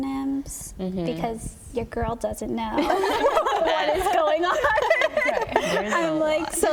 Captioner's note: laughter